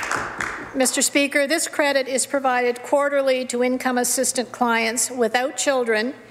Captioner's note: some Applause